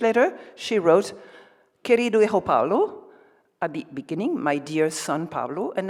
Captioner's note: speaks Spanish